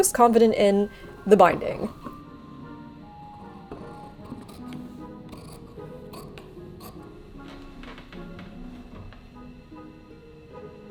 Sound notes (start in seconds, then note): 3.7 shears cutting; 4.7 whimsical music